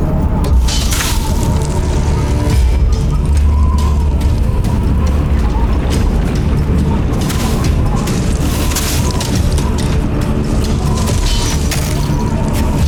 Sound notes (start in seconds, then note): 0.0 ice cracking, clanging; 2.4 tense music playing; 2.4 wind gushing; 8.8 ice cracking; 8.8 weapon clanging